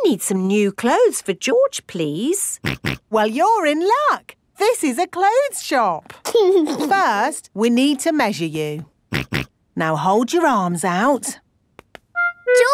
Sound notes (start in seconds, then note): 9.5 snorts